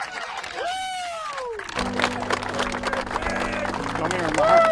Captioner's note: spectators cheering